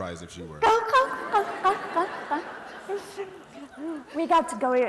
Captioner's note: laughter